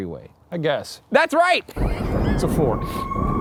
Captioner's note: laughs